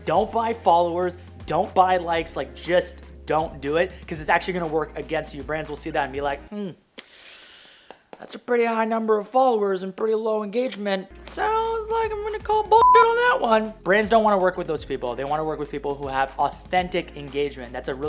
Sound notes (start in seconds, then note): 12.8 beeping